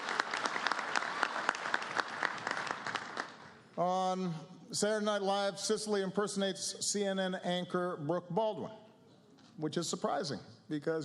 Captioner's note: applause